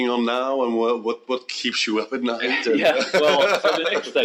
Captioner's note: laughs